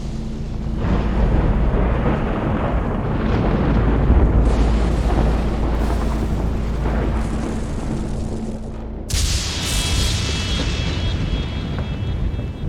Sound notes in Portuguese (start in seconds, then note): 7.5 Sons de eletricidade estática; 9.1 Estrondo forte